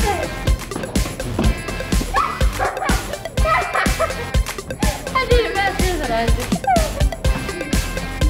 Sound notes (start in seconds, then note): 2.8 laughs